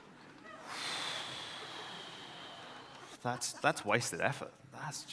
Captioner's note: sighs